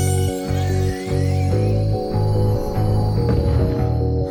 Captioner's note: magic whirring